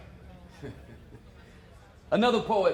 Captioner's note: laughs